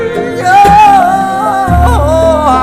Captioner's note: vocalizes